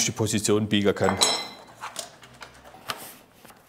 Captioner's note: clatter